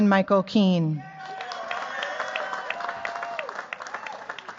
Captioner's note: cheers, applause